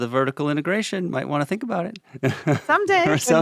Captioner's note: laughs